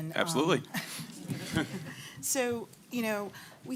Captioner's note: laughter